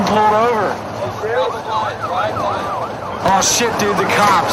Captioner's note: sirens and blah blah blah